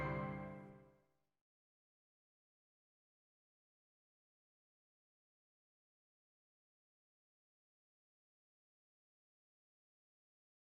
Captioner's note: silence